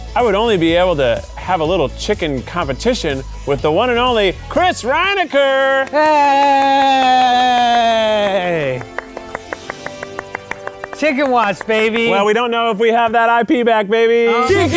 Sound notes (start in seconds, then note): 5.3 clapping; 8.9 regal instrumental music